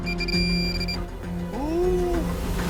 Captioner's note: gasps